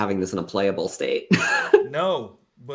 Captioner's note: laughs